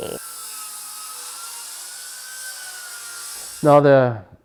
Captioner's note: whirring